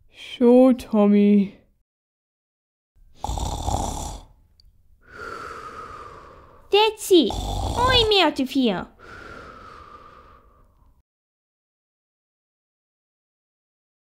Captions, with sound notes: Sure Tommy (Snoring) That's it! I'm out of here!